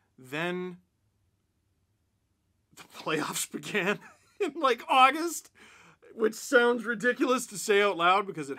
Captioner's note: laughter